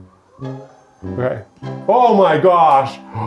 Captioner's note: desk whirs